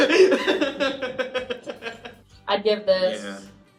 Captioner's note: laughing